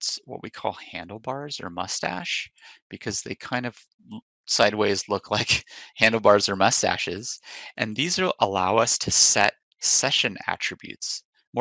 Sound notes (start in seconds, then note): 4.5 chuckles